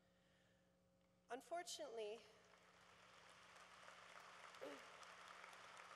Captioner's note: applause